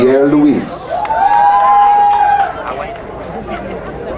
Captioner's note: crowd cheering